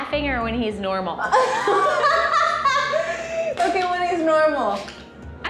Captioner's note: laughs